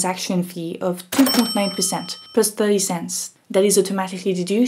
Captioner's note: cash register dings